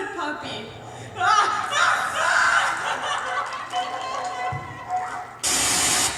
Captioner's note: screaming and Mauling